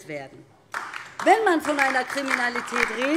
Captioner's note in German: Beifall DIE LINKE